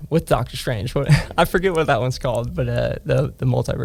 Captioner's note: laughs